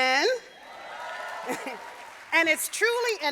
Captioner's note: audience cheering